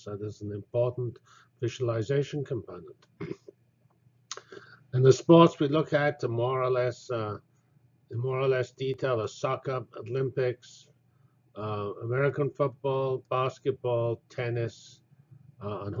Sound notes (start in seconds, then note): 3.2 cough